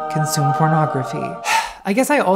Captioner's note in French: soupir